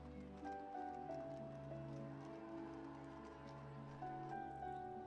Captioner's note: cameras clicking